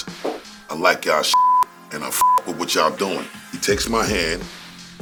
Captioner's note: beep